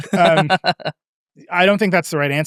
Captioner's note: laughs